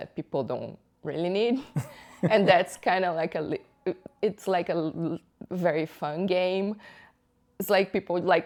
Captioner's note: laughter